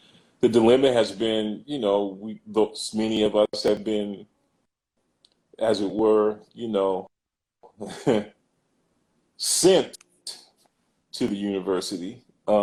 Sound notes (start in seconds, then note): 2.2 glitch; 7.8 laughs